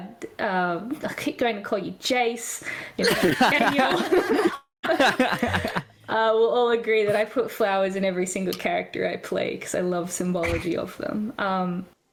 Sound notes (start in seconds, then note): 4.8 they continue giggling; 4.9 all laughter